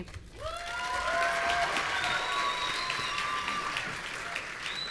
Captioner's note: audience cheering